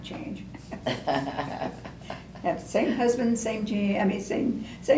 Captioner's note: laughter